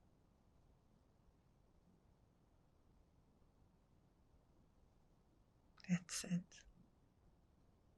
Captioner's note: pauses 6 seconds